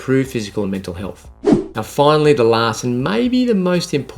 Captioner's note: scene change whooshing